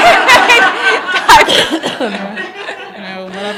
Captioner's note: laughter